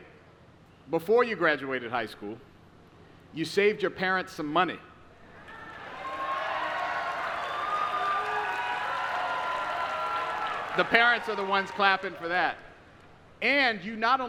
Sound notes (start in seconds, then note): 10.5 applause